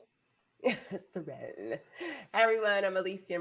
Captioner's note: chuckles